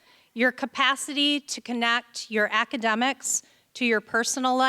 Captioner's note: none